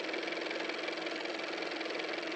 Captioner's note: car motor